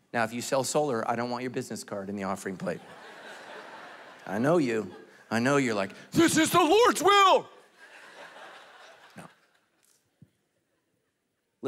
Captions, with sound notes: Now if you sell solar, I don't want your business card in the offering plate. (congregation laughing) I know you, I know you're like, "This is the Lord's will!" No.